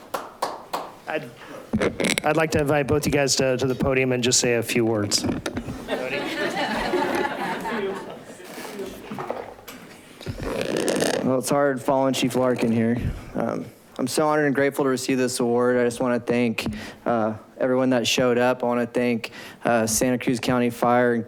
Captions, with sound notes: I'd like to invite both you guys to the podium and just say a few words. (laughing) - Well, it's hard following Chief Larkin here. I'm so honored and grateful to receive this award. I just wanna thank everyone that showed up. I wanna thank Santa Cruz County Fire